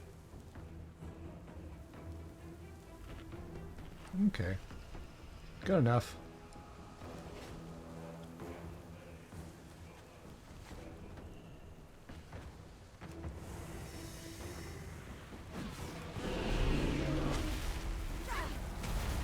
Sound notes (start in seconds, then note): 12.1 growling